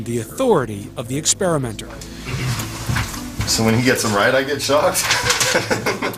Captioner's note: laughing